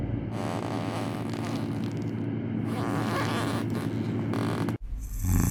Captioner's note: shoe squeaking on wooden floor; snoring